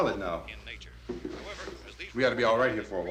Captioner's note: murmuring